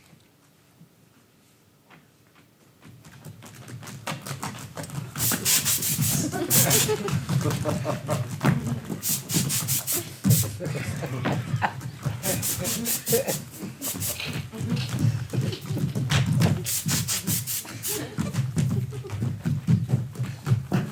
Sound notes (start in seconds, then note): 5.2 spray hisses; 6.9 audience laughs; 9.0 spray hisses; 12.4 spray hisses